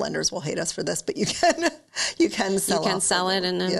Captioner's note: laughs